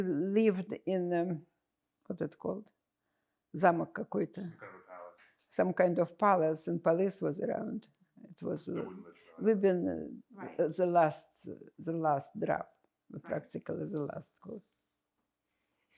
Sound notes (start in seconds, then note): 3.8 russian